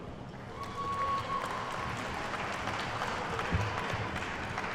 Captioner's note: attendees clapping